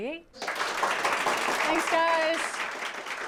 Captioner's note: audience applauds